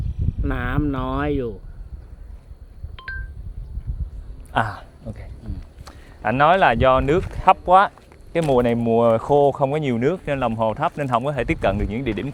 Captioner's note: speaking in Thai